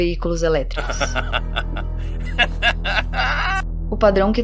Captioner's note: maniacal Laughter